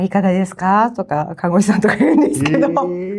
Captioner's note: laughs